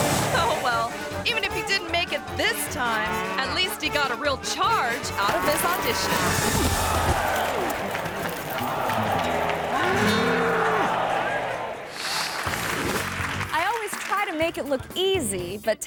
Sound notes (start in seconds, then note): 7.7 audience clamoring; 7.7 thuds